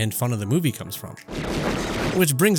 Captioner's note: gun shots